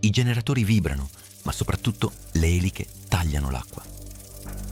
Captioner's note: propellers